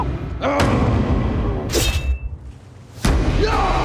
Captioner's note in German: Kampfschreie